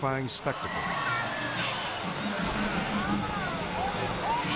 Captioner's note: crowd yelling